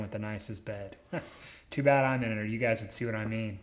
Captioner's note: chuckles